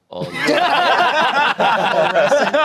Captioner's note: everyone laughing